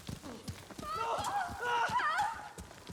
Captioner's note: screams